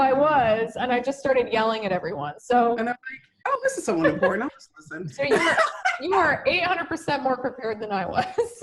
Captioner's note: laughter